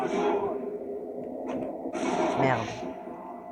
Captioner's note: sounds in cold blood and shoots